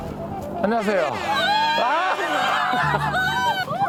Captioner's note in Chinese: 呐喊